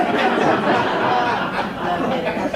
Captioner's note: laughter